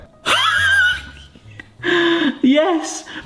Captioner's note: laughing